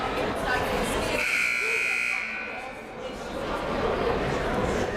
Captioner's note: buzzer blares